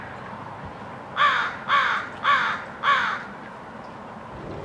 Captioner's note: crow